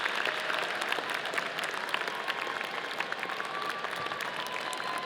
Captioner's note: audience applauding